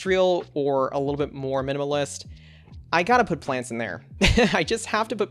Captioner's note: laughs